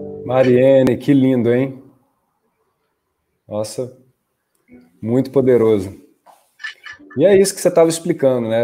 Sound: speaking in Portuguese

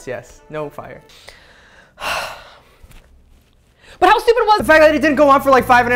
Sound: sigh

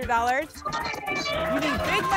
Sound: applause and cheering

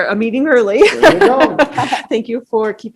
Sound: laughing

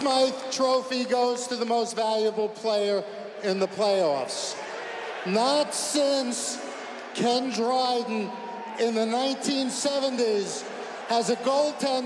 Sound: cheers and applause

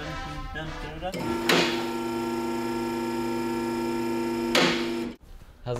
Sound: machinery whirring

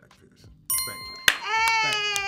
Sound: bell chimes

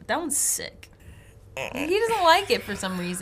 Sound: groans

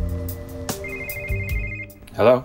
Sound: phone ringing

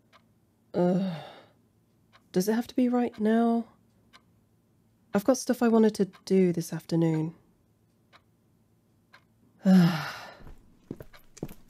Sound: groan

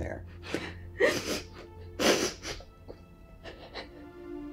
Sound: Diane crying; dramatic music

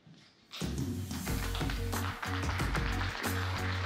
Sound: applause

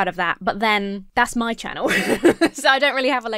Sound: laughs

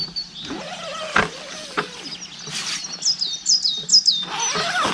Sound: bird chirping

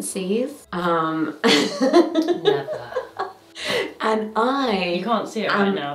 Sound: chuckles

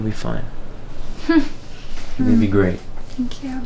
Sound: emma nervously giggles

